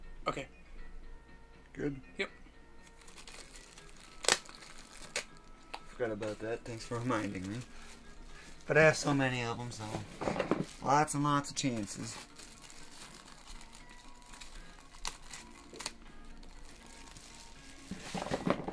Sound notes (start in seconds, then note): 4.0 paper rustling